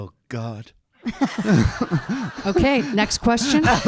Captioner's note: audience laughing